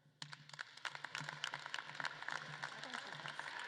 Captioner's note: audience claps